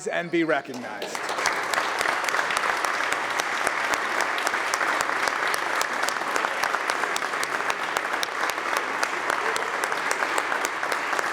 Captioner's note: applause